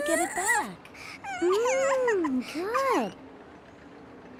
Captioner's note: cooing